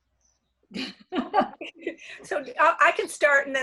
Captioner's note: laughter